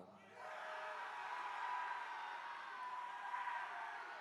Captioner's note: attendees cheering